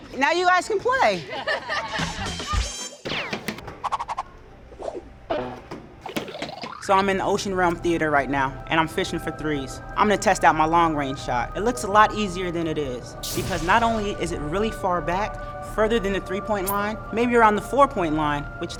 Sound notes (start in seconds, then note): 1.1 women laughing; 1.9 cartoonish music